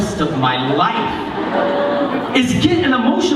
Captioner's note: laughter